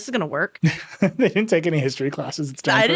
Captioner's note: laughing